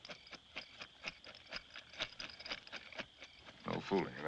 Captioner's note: rattling